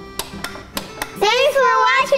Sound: button clicks

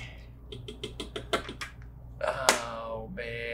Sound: pen tapping

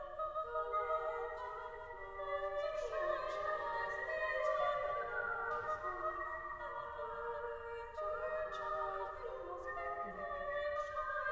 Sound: lower Voices random whistling

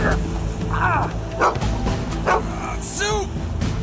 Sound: gasps/grunts of pain; barking

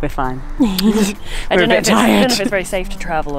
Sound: chuckling

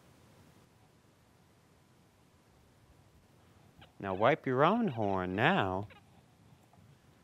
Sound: wiping noise

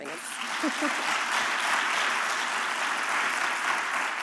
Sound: applause

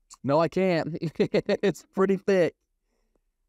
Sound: laughs

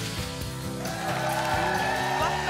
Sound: applause and cheering

